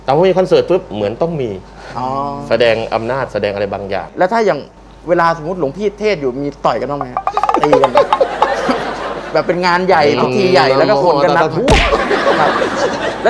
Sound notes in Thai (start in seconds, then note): 7.4 เสียงหัวเราะ; 11.8 เสียงหัวเราะ